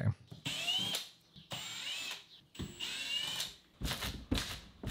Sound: drill whirring

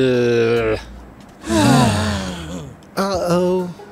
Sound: groans

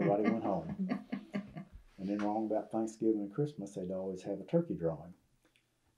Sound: laughter

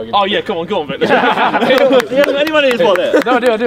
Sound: men laughing

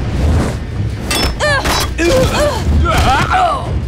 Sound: grunting

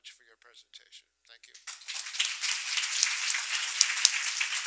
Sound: applause

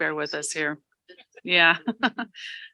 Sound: laughing

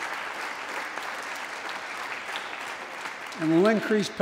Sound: applause

